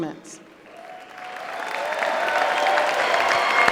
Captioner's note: applause